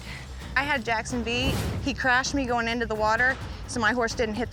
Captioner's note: none